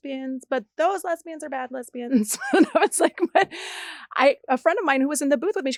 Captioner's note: laughs